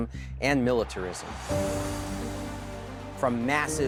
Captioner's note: cheering